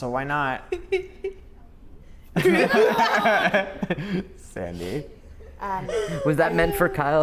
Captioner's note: laugh